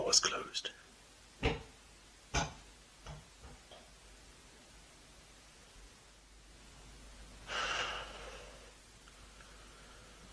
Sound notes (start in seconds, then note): 1.4 sound of ball bouncing; 7.5 sigh